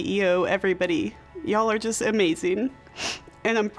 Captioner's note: sniffling